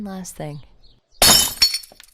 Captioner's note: glasses break